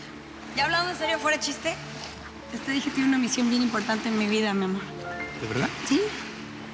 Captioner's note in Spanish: none